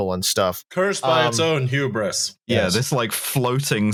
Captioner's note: monotone